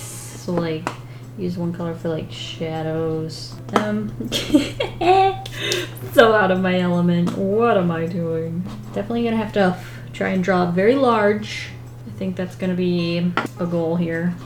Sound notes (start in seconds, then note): 4.1 laughs